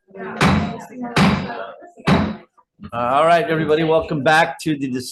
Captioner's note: slams gavel